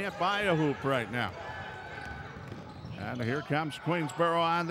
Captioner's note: ball pounding